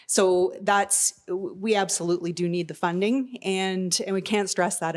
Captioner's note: none